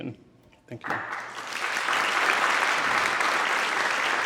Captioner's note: audience clapping; clapping